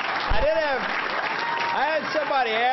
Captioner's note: applause